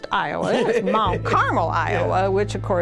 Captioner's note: laughs